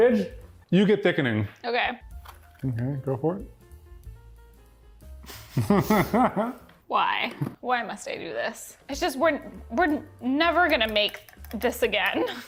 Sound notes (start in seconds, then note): 5.4 laughing